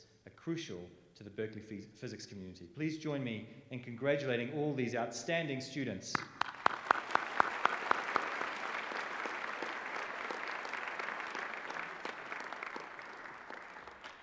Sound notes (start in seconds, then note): 6.1 applause